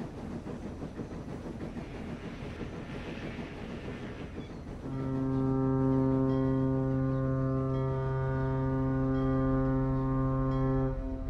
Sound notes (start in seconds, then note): 4.9 foghorn